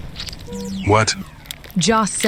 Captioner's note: power generator sputters and stops working